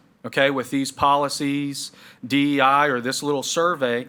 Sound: none

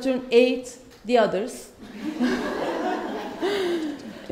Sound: laughter from guests

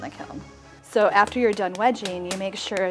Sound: hand smacking clay

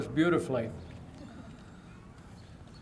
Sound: laughter

